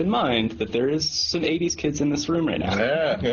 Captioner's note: laughs